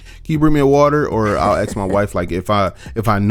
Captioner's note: laughs